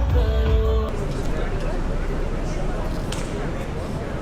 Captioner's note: crowd buzzing